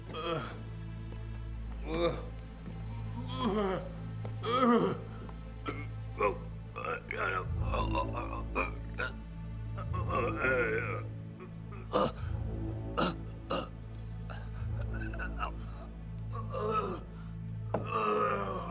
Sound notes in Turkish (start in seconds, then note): 6.7 İnleme sesleri